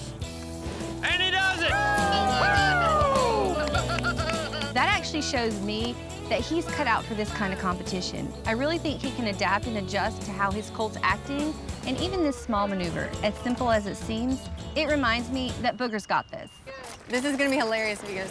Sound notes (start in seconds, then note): 4.2 clapping, cheering